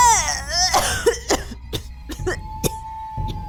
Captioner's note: coughs